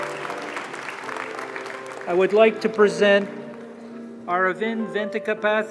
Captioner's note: applause